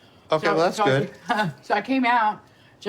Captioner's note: laughs